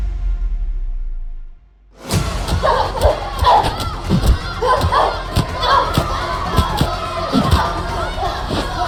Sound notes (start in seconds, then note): 2.2 children shouting; 2.2 fighters grunting